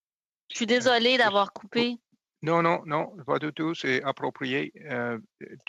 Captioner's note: speaking in French